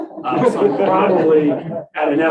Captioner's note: laughter